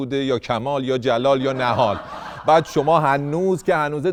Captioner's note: laughter